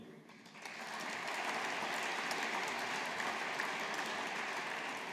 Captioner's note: audience applauding